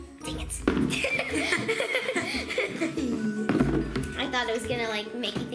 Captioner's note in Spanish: Ambos ríen